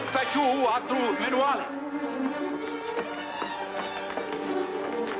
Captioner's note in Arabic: الرجل يتكلم بلغة أجنبية